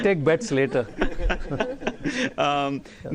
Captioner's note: laughter